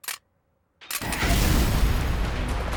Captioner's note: explodes